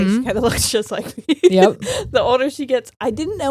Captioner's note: laughing